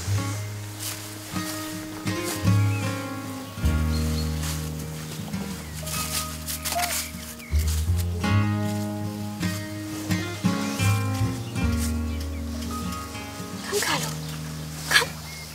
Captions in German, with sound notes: (Freundliche Gitarrenmusik) (Leises Winseln) Komm, Carlo! Komm!